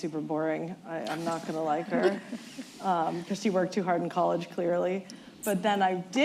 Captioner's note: laughter